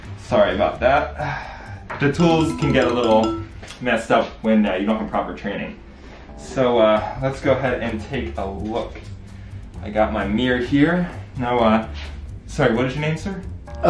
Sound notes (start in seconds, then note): 1.5 sighs; 2.1 chimes tinkling